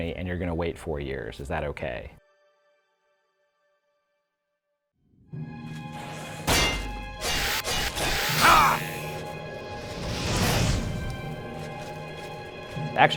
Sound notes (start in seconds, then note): 5.6 eerie music; 6.3 sword clashing; 6.7 game character grunting; 10.6 booming